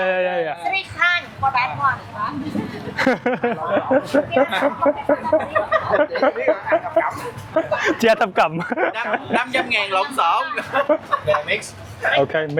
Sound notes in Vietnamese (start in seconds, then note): 2.4 tiếng cười